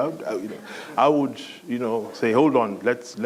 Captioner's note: laughter